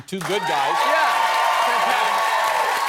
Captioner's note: cheering